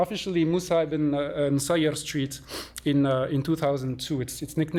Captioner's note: non-english